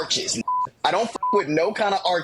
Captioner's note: beep